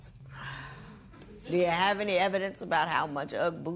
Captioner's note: sighs